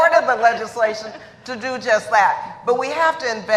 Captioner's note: laughter